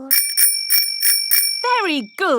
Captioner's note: rings bell